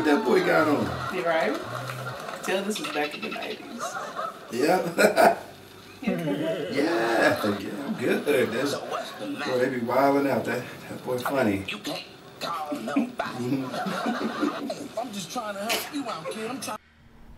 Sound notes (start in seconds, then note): 4.5 Tony laughs; 14.0 both laugh